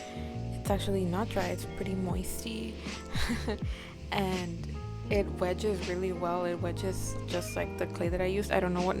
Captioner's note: chuckles